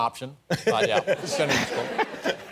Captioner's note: laughter